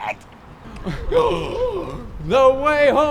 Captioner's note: gasps